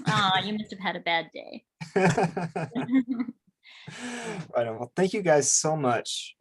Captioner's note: laughing; laughs